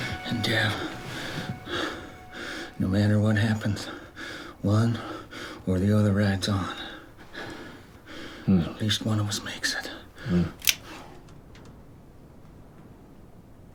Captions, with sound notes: And Dev, no matter what happens, one or the other rides on. At least one of us makes it. [GUN CLICKS]